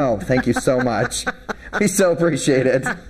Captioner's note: laughing